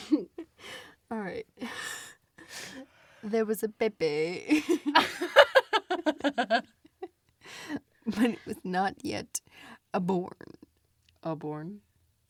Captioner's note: both laugh